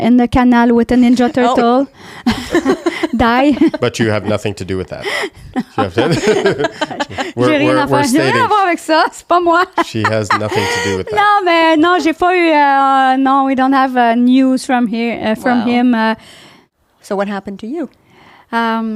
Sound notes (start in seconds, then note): 2.8 laughing; 6.5 laughing; 7.3 in french; 10.9 in french